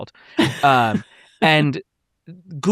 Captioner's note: chuckles